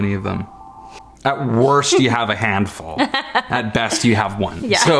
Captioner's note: laughing